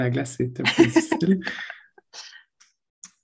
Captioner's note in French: rires